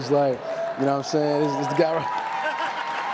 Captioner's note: cheers and applause